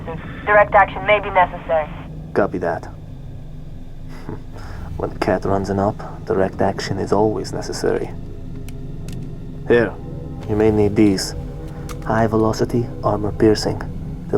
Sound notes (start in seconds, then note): 0.0 radio; 4.1 wry chuckle